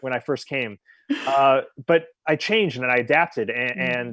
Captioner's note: chuckles